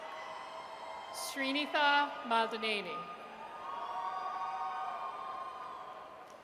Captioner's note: audience cheers